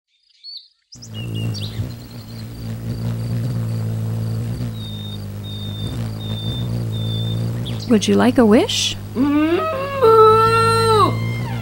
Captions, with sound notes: (birds tweeting) (wings buzzing) - Would you like a wish? (cow moos)